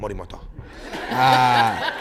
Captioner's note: laughter